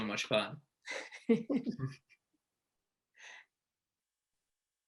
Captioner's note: both chuckle